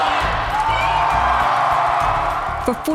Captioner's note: cheering